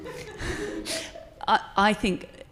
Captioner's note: participants laughing